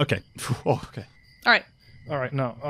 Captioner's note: exhales